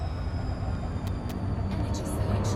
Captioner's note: rising hum